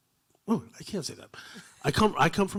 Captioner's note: chuckling